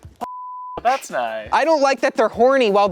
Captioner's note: beep